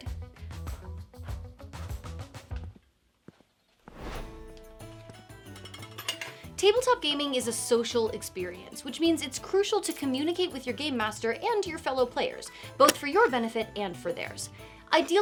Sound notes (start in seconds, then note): 0.2 gentle upbeat music; 3.8 screen whooshing; 4.3 metal clinking